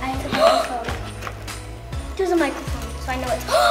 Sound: gasps

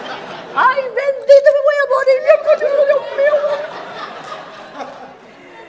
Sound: speaking in a foreign language; audience laughs

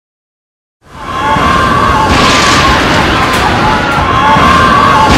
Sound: thunder

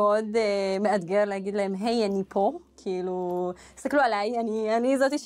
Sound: none

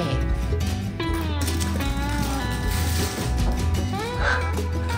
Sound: footsteps running fast

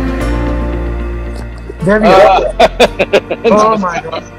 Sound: laughs

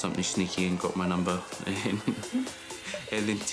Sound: laughing

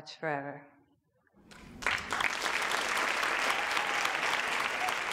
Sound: audience applauds

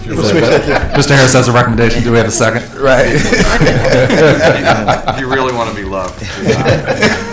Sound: laughter; laughter

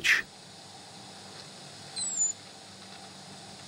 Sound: mice squeaking

